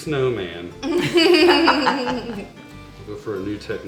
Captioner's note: laughing